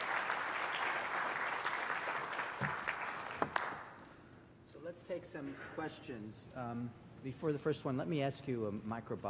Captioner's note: applause